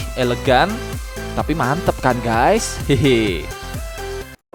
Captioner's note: laugh